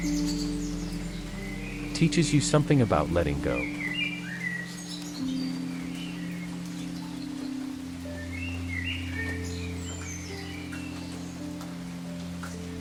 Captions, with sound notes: teaches you something about letting go. (birds chirping)